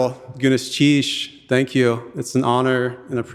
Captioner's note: speaking in Tlingit language